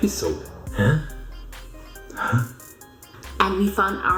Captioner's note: questioning sound